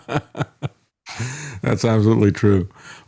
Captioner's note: laughing